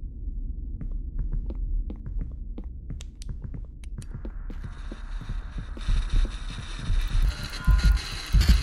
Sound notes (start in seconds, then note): 4.6 static noises